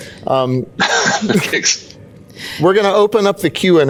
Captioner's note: laughs